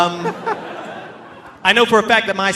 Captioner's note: audience laughing